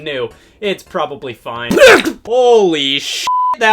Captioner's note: man grunts; beep